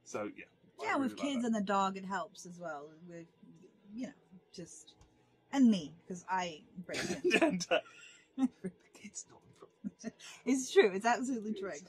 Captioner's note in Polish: szepcze